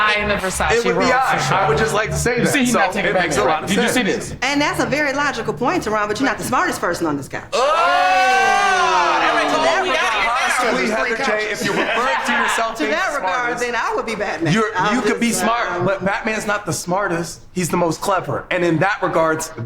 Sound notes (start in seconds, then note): 7.5 all shout; 8.2 overlapping chatter